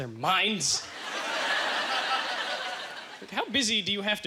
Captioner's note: audience laughter